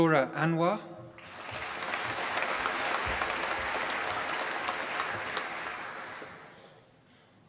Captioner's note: applause